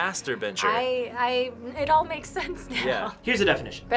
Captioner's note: laughs